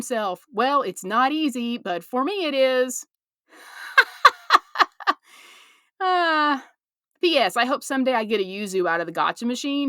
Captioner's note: laugh